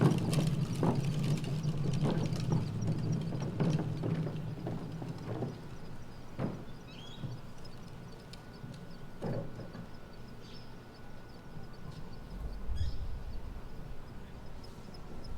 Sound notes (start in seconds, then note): 10.5 birds tweeting